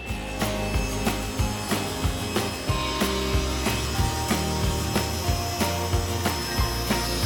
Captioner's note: upbeat music; wood sawing